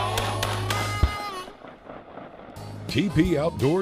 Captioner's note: gun firing